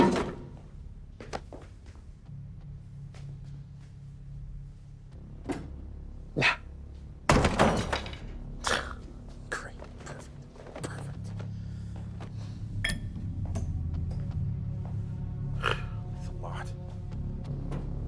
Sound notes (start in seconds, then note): 0.0 crowbar clunks; 2.5 suspenseful music; 7.4 crowbar clunks; 8.6 scoffs; 15.5 scoffs